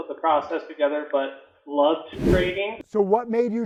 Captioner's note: wind whooshing